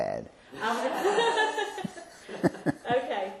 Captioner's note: laughter